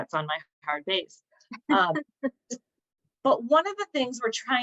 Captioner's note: laughter